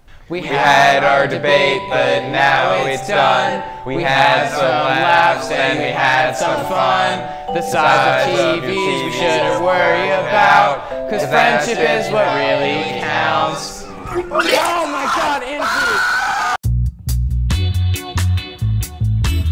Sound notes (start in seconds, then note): 0.1 singing; 13.9 chucks; 14.0 screeeams